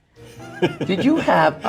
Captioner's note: Steve laughs